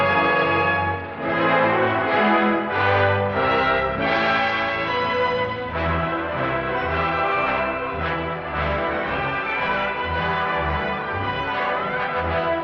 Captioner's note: bell